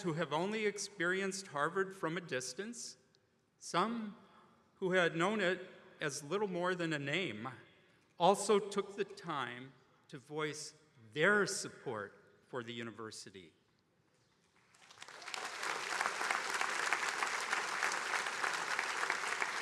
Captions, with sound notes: who have only experienced Harvard from a distance, some who had known it as little more than a name, also took the time to voice their support for the university. (attendees applauding)